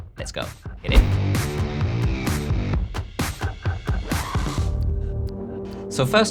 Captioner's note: upbeat music; air whooshing